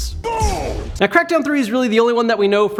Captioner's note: yells